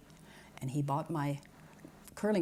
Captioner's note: none